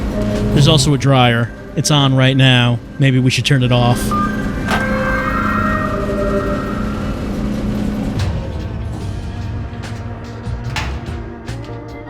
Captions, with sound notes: There's also a dryer. It's on right now. Maybe we should turn it off. [musical sting of interaction] [dryer door clicking open]